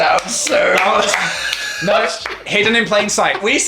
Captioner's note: clapping; laughing